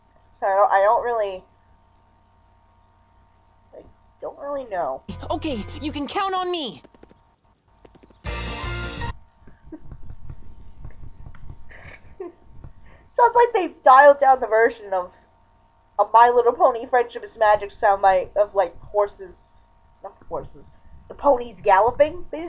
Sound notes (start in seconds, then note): 7.4 galloping noise